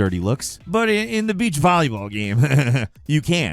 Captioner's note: sniggers